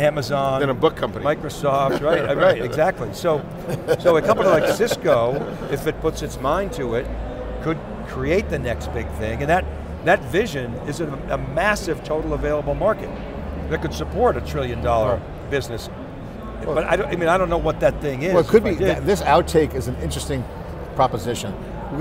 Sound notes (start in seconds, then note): 3.4 laugh